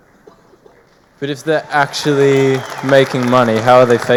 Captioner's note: audience applauding